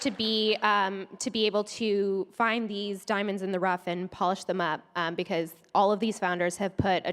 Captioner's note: applause